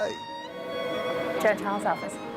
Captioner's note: phone ringing